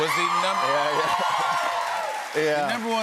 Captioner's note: cheers and applause